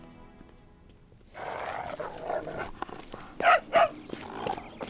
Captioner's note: dogs growl and bark